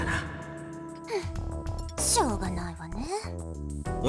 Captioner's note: sigh